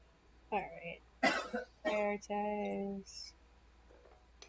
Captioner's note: coughing